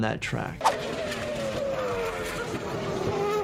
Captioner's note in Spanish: el motor ruge